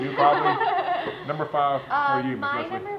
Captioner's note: laughter